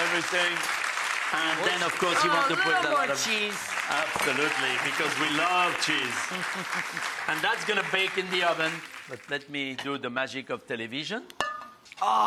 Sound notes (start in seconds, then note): 4.7 audience applauding; 6.1 chuckles